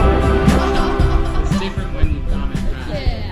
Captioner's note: bike travelers chitchatting